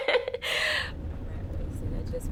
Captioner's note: laughs